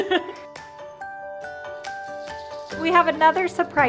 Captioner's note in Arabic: يضحك